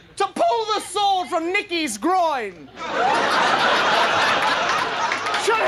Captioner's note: audience laughing